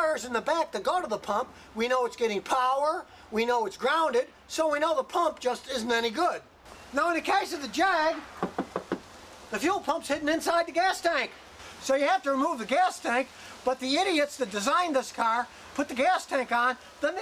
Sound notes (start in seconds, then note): 8.3 knocking